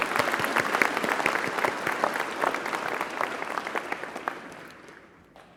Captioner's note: applause